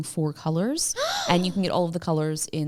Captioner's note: gasps